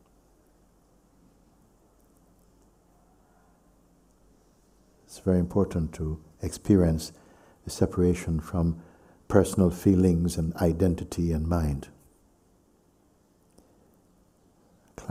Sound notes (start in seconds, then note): none